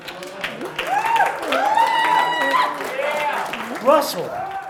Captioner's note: applause